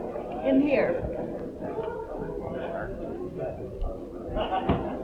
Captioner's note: people chattering